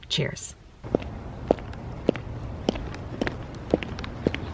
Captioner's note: footsteps